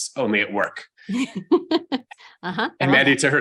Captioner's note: laughs